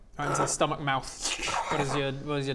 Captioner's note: tzrchshxhkh